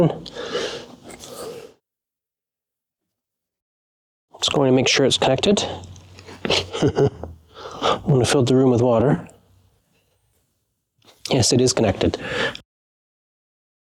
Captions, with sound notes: Just going to make sure it's connected. [LAUGHTER] I'm going to fill the room with water. Yes, it is connected.